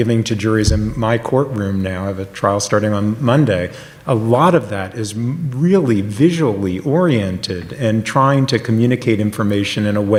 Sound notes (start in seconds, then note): none